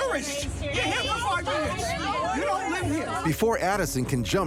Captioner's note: people arguing